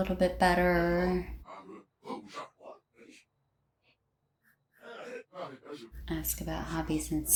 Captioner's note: sims chatting in fast mode